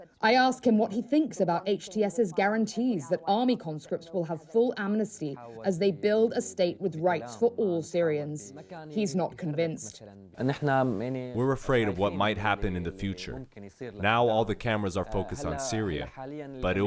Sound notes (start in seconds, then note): 10.8 through translator